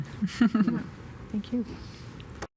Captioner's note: chuckling